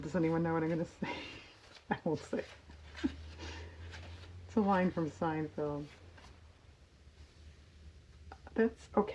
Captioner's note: laughs